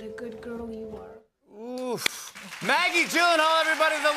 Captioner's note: cheers and applause